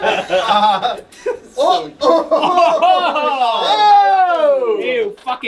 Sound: all laughing; all exclaiming; fake laugh

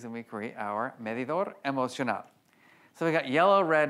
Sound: foreign language

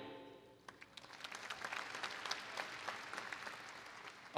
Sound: applause

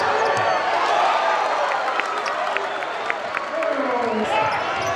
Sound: crowd cheers

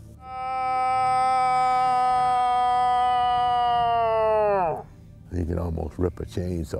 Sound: bellows

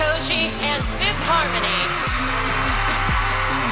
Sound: cheerand apause

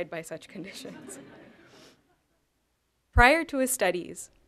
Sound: chuckling

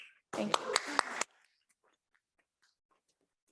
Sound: applause

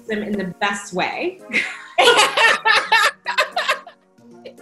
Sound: both laughing

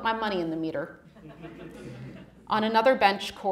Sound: audience laughing

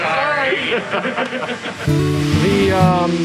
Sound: laughter

